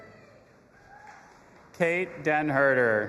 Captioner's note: audience applauding and cheering